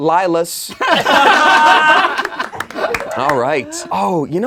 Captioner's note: laughing